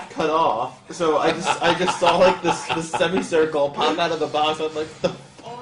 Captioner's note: laughs